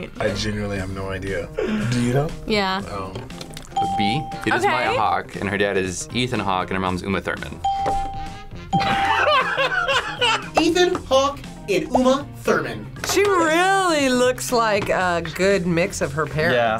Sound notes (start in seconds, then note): 7.7 ding; 8.8 laughs